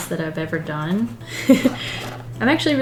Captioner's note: laughs